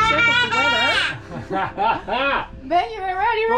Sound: laugh; shouting

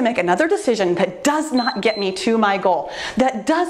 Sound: timer beeps

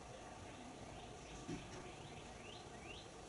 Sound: none

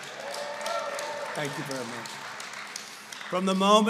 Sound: applause

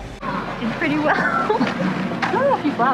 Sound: laughs

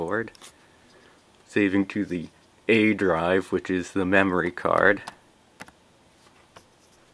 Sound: typing

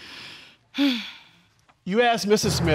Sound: sighs

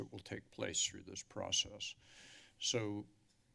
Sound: inhales

